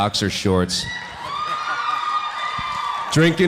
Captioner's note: audience cheering